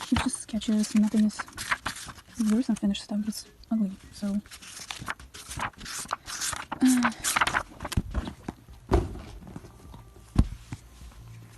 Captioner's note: sigh